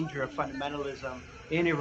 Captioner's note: speaking Foreign Language